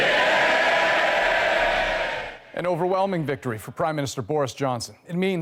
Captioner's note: cheers and Applause